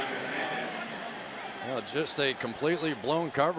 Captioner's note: pa announcement